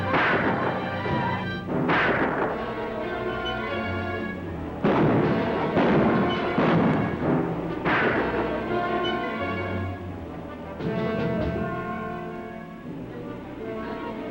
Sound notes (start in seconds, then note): 0.0 gun fires; 2.7 tense orchestral music; 4.8 guns fire; 7.7 gun fires